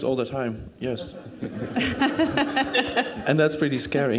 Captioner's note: crowd laughing